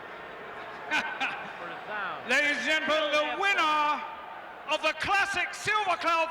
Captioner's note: laughs